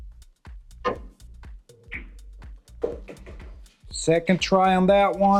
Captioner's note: billiard balls clanging